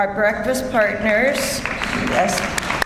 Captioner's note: audience applauds